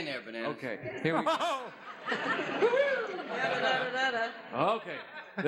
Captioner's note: laughs